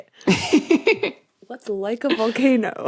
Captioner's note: giggles